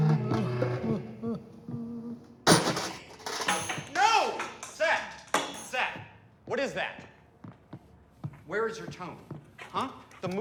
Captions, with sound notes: (kicking bucket) - No, Seth! Seth, what is that? Where is your tone, huh?